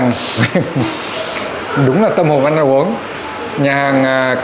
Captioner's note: chuckles